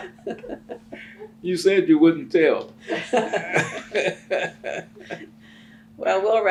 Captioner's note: laughter